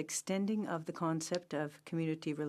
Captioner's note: speaking french